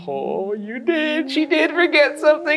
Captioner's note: laughs